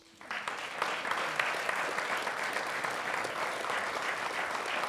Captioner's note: audience applauding